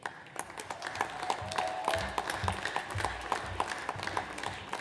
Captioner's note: audience applauds